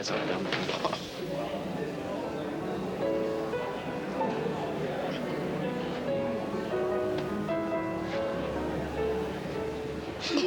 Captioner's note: crowd noise; laughter